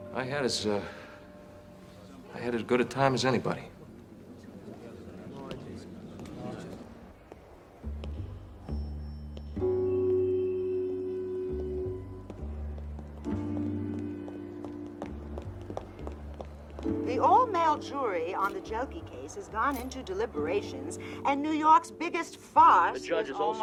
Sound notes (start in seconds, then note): 5.7 crowd chatters; 8.7 footsteps patter; 8.7 jazzy music